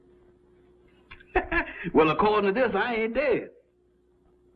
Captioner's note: chuckling